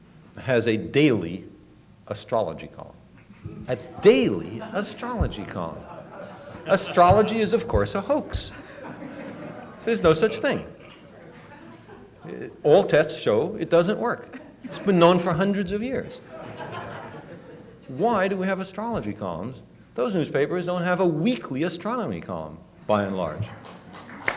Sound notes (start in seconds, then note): 16.2 laughter; 23.5 applause